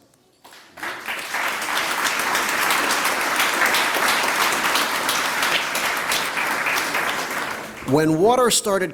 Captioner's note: applause